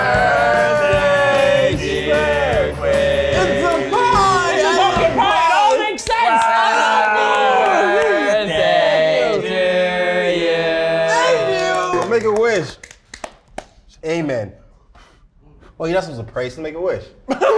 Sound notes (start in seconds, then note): 5.0 all exclaiming